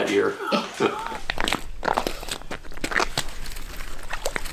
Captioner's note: ice crunching